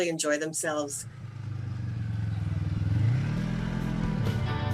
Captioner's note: engine roaring